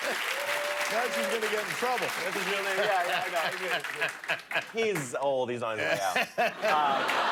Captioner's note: cheers and applause